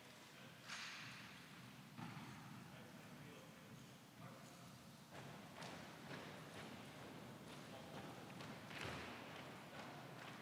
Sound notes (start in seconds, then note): 6.1 feet pounding